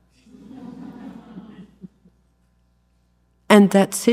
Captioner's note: audience laughs